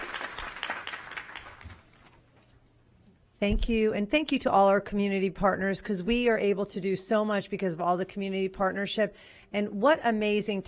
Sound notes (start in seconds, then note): 2.2 applause